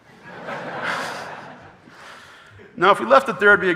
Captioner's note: audience laughing